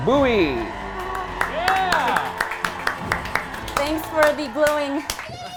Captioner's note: crowd cheering